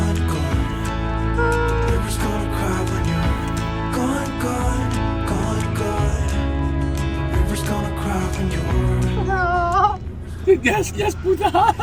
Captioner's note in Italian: Risate